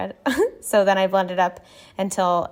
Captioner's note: laughing